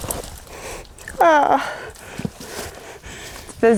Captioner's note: heavy breathing; whimper